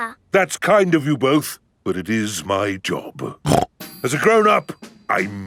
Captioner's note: snorts